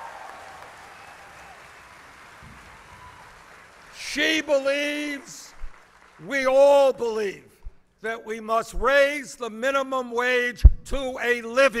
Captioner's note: applause